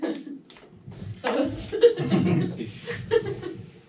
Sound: lols

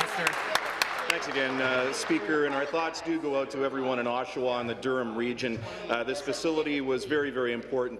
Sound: applause

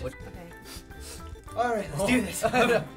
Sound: sharp sniffs

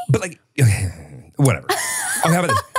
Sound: sighs; laughs

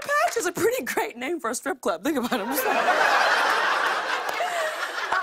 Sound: laughter

